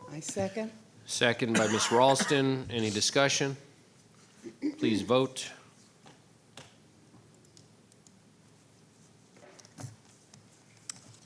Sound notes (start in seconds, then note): 7.9 clicking